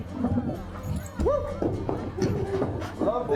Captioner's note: gang laughing